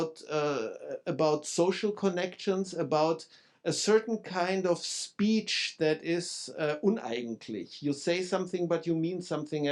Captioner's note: speaking German